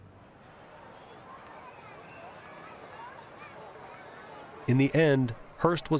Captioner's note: crowd clamoring